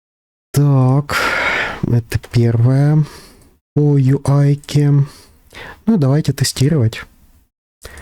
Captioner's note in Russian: вздыхает; тяжело вздыхает